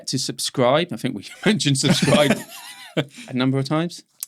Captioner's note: both laughing